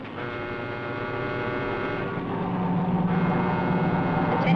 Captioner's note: alarm blaring